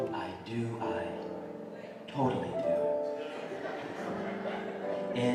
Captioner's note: audience laughter